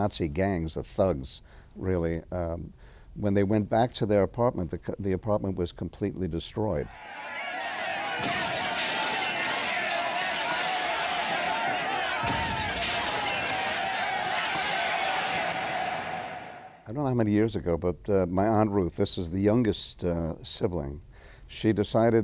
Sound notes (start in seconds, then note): 6.9 crowd Yelling; 7.0 glass Breaking